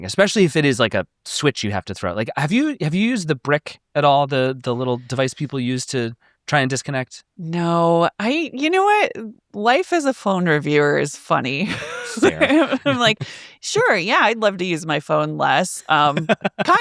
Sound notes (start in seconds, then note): 11.6 laughs